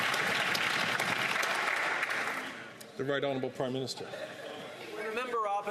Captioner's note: some Applause